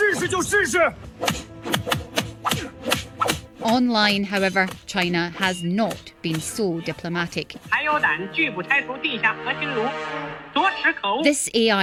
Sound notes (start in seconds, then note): 1.2 punching